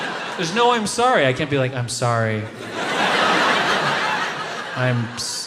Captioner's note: audience laughs